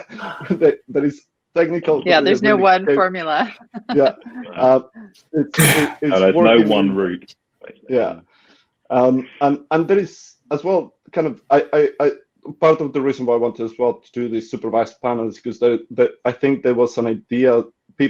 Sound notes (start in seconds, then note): 3.4 laughing